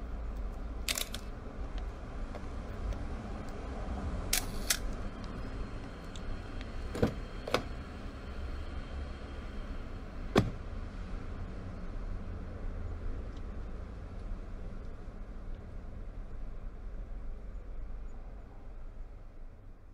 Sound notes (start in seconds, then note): 0.9 camera flash; 4.3 camera flash; 6.8 car door open; 10.2 car door close